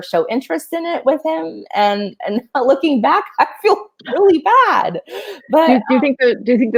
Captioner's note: laughing